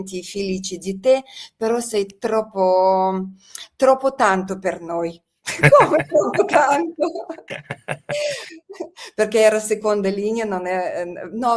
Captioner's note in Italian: risate